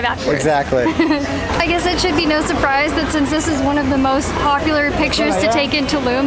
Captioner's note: laughs